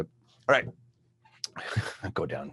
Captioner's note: laughs